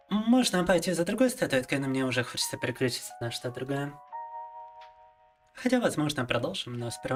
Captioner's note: speaking in Russian